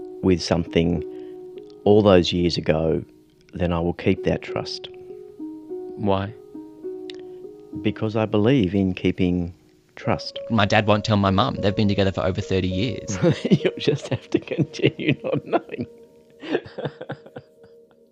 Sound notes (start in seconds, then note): 13.1 laughs